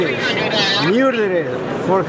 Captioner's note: sound of security walkie-talkies